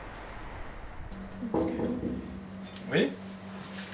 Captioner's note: knock on door